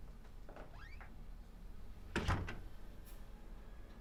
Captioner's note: door creaks, closes